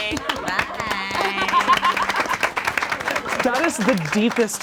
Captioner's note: all applaud